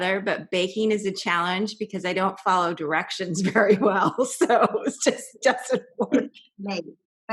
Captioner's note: laughter